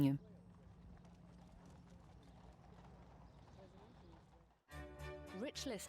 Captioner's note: people chattering; bright music